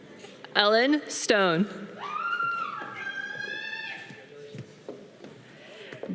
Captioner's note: audience cheering